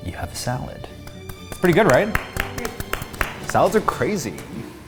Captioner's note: group clapping